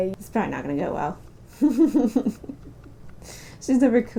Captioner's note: laughter